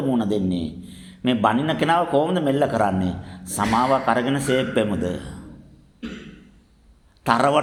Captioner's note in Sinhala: උගුර කෑරීම